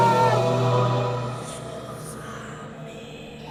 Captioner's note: demonic Whispering